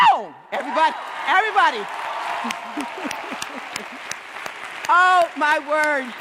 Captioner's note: clapping